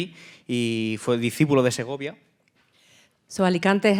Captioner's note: speaking in Spanish